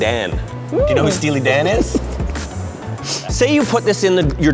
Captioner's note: laughs